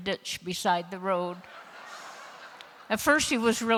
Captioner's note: laughter